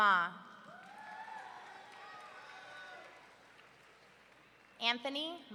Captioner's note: audience cheering